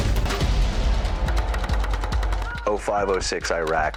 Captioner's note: intense music; gunfire bursts